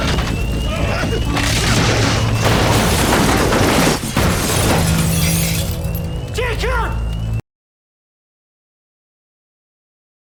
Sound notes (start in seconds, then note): 0.0 creaking; 2.5 crashing